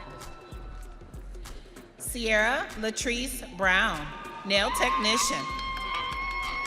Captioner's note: audience cheering